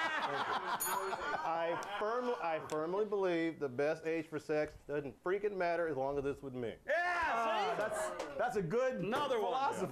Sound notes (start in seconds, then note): 0.0 laughter; 0.7 bell rings